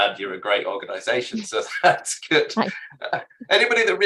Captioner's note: chuckling